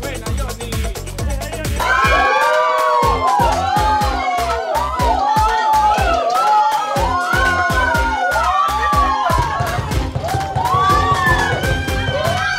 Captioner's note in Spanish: Gritos